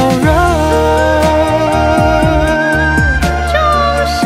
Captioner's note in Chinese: 戲腔念白